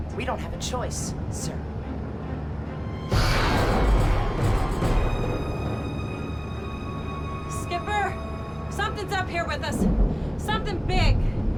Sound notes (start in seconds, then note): 2.5 creature screeches; 2.5 intense music